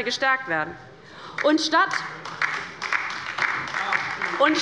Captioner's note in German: Beifall bei Abgeordneten der LINKEN